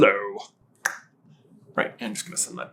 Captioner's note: tongue click